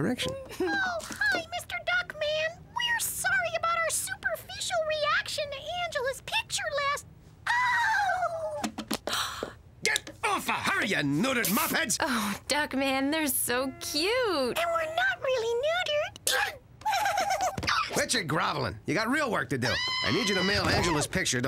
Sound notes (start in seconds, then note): 9.0 gasps; 16.8 giggling